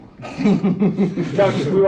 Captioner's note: man laughs